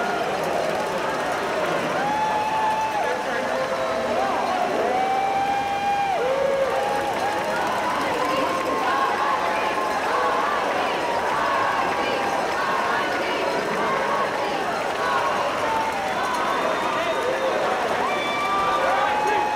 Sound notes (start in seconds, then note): 3.4 cheering; 19.3 cheering